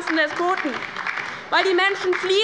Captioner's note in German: Beifall bei der LINKEN